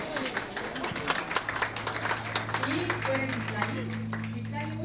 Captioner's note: aplausos